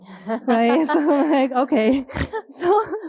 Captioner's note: all laughing